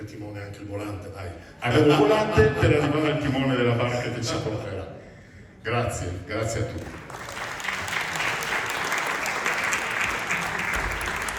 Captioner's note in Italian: Applauso